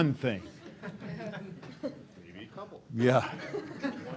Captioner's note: laughter